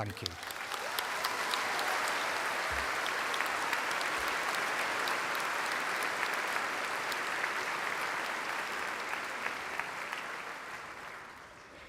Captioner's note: applause